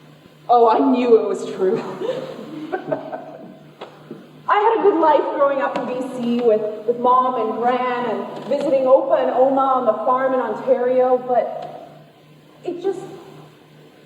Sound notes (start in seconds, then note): 1.6 congregation laughs